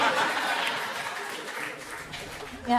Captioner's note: crowd laughs